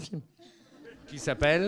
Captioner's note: laughs